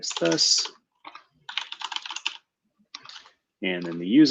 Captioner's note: typing